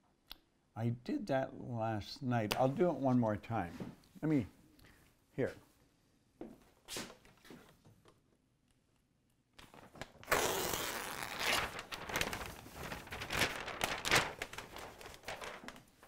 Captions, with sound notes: I did that last night. I'll do it one more time. Let me, here. (paper crinkles)